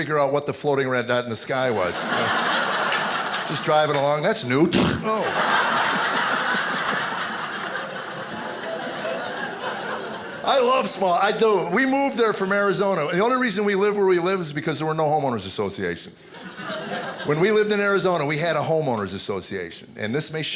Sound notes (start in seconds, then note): 4.4 imitating crashing; 5.0 audience laughing